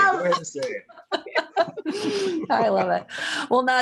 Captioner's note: laughter